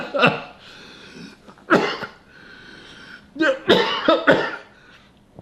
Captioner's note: laughing; coughing